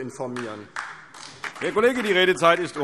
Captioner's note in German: Beifall DIE LINKE